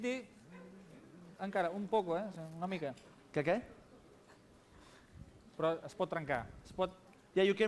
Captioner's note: non-english speech